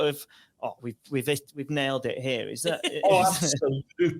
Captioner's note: laughs